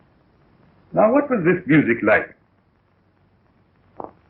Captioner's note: none